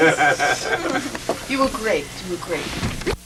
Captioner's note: laughter